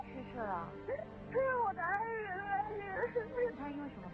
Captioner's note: wailing